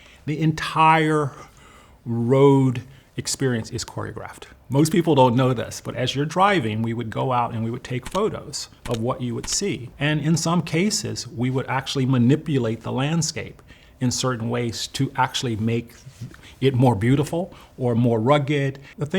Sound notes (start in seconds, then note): 9.4 camera shutter clicks